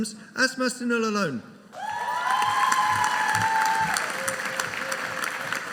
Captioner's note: audience cheering